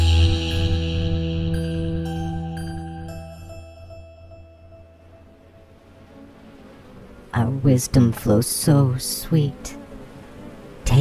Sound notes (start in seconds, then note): 0.0 muted horn in f; 0.0 light piano: dee-doo-dee... dee-doo-dee-doo; 2.1 music fades out, buzzing bees, and undulating static fade in; 7.3 The Buzzing voices